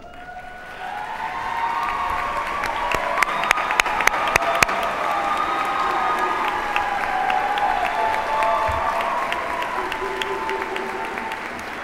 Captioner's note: appaluse